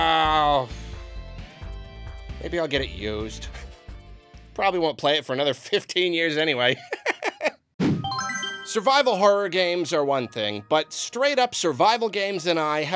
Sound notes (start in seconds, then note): 6.8 laughs